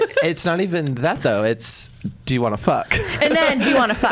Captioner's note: laughs; laughs